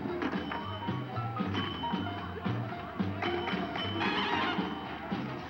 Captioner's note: pinball machine dinging